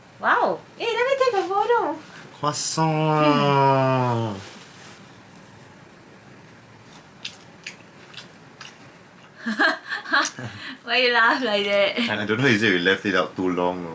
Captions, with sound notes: Wow Eh let me take a photo Croissant~ [munch munch] Why you laugh like that? I don’t know whether is it we left it out too long